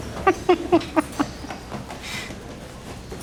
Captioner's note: giggling